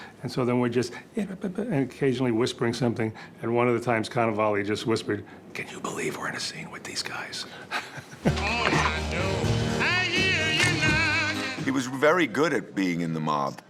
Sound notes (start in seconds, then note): 7.7 laughing; 8.3 retro music playing